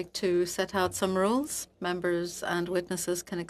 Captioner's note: speaking French